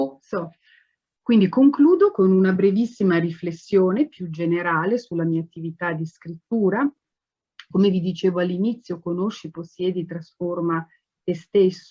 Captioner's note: speaking Italian